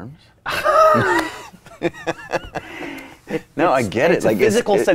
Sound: both laughing

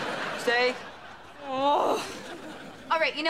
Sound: groaning

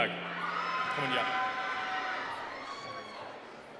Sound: cheering

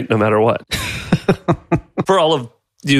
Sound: laughs

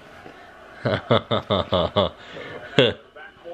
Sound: laughs

